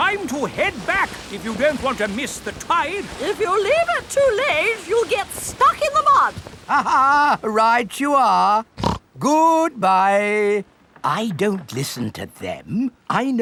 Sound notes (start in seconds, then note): 6.6 laughs; 8.8 snorts